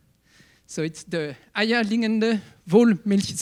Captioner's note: speaking in foreign language